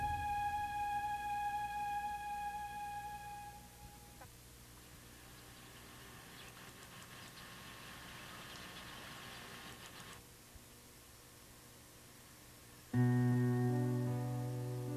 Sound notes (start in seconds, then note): 7.3 birds chirping, Grass rustling; 12.9 sad music